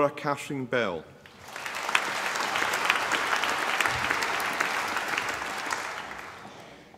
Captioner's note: applause